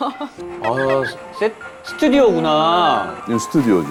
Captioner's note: scrub scrub